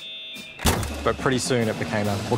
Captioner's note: modem sounds; fist banging